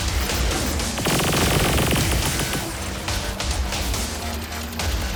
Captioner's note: gun firing